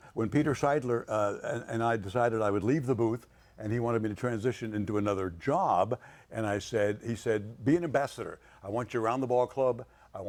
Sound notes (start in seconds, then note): none